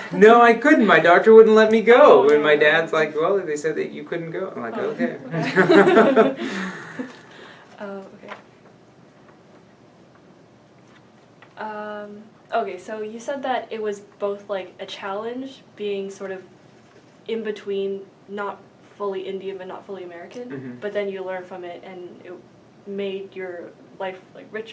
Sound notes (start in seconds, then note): 7.9 all laugh